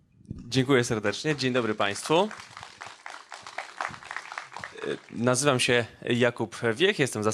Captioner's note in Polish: oklaski